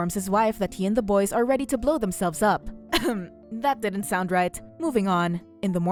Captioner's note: cough Sound